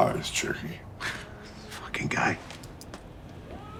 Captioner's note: scoffing